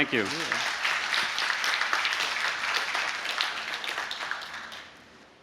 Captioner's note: applause